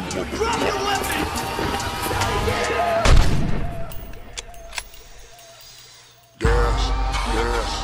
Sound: blam

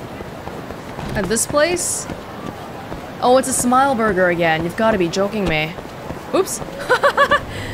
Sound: laughs

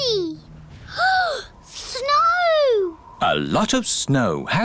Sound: gasps

